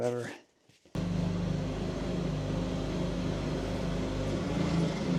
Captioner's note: machinery humming